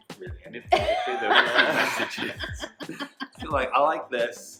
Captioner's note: laughing